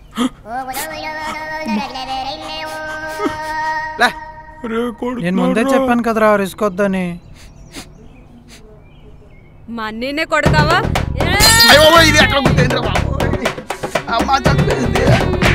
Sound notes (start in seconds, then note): 0.0 gasps; 2.5 sobbing; 7.2 Balu sobbing